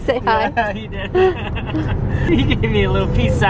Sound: laughs

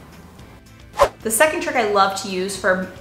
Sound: air whooshing

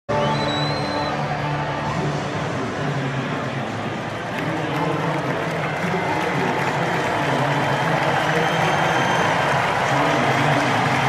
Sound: cheering

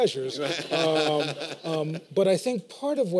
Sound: laughter

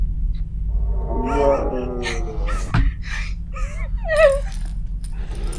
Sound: continued growling/moaning under the bed

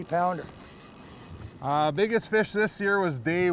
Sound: reel spinning

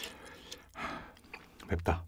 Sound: sighs

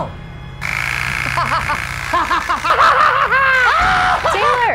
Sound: saw rattling; laughing loudly

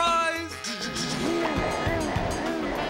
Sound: car growling excitedly

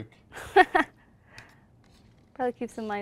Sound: laughs

